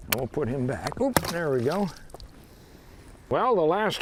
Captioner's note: water splashing